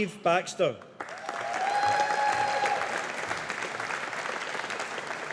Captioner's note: audience applauding